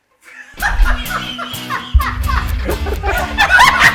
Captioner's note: group laughing; upbeat music